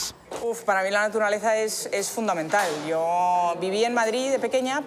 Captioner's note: speaking foreign language